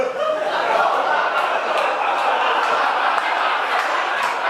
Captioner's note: audience laughing